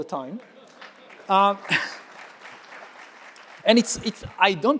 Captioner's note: audience clapping